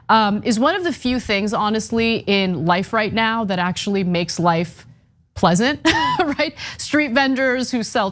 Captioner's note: laugh